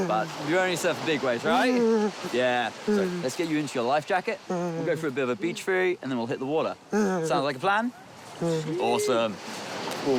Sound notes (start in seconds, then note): 1.6 grunts emphatically; 8.4 grunts